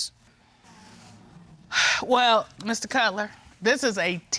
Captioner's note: Judge Dana sighs